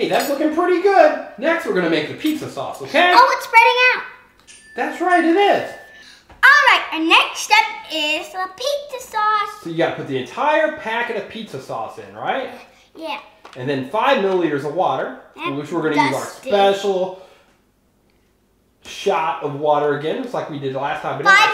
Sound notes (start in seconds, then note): 4.4 bell ringing